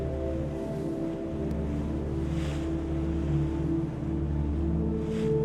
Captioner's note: waves softly crash